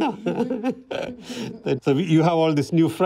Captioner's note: both laugh